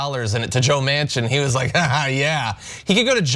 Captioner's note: laugh